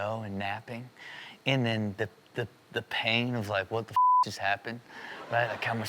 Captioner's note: beep